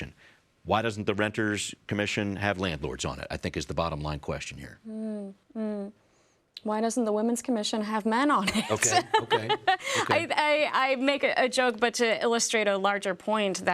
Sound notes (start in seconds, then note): 8.5 laughs